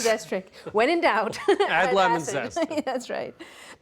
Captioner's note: laughs